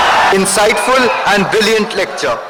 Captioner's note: wild applause and cheering for 17 seconds